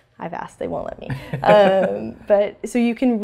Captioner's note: laugh